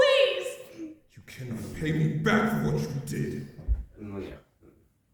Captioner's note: male Voice